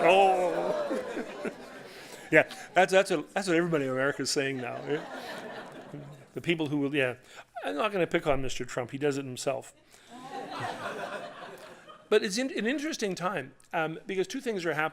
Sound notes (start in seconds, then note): 4.4 laughter; 4.8 audience ohhs; 10.1 audience ohhs; 10.1 laughter